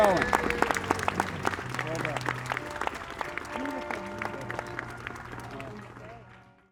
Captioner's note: applause